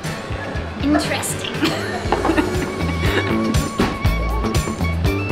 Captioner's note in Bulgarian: смее се